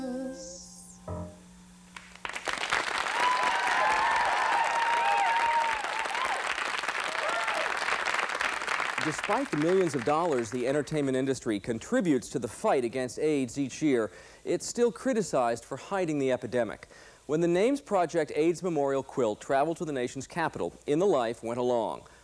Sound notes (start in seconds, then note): 1.9 applause